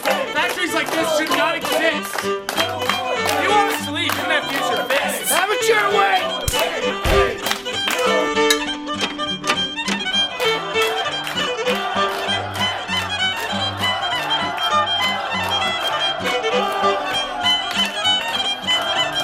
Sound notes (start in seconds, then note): 7.0 smack